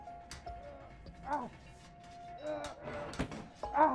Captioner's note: Tariq groaning